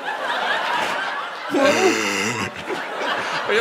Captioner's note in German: schweres Atmen